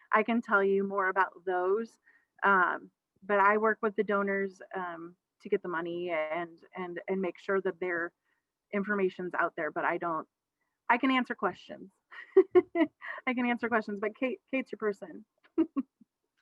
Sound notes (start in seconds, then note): 12.2 laughs